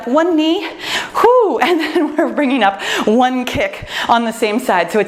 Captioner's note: laughs